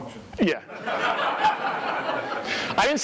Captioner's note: more laughter